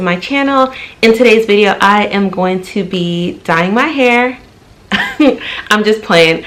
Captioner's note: laughs